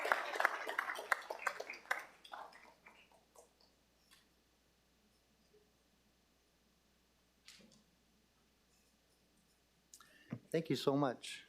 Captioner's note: applause